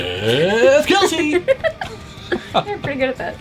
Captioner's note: laughs